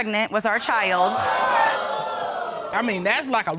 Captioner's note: audience exclaims